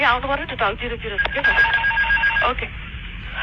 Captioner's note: beeping stall warning and stick shaker